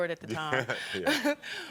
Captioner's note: Karamo laughs